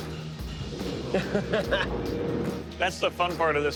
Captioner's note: laughs